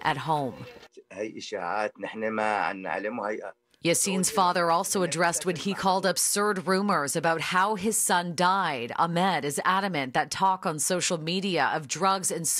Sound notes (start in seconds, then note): 5.7 alternate language